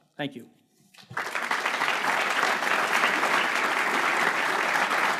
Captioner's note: crowd applauding